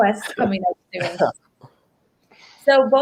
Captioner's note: laughs